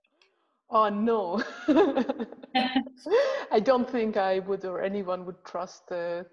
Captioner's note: laughing